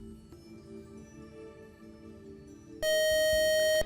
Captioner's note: buzzer